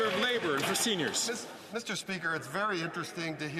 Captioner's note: some Applause